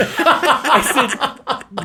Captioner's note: laughs